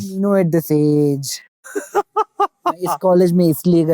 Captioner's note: chuckles